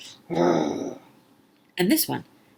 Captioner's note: growling